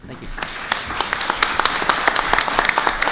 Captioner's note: applause